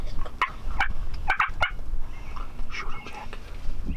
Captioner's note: turkey call chirping